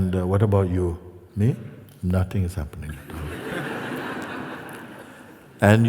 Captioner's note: laughter